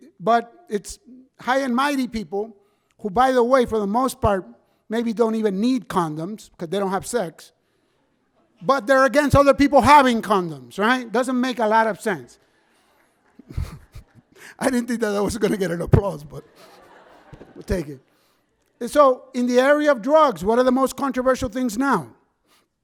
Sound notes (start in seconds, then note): 12.8 scattered clapping; 13.0 laughs; 16.5 audience laughs